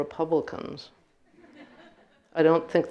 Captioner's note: audience laughing